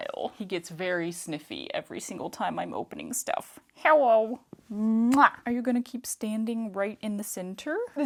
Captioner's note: kissy noise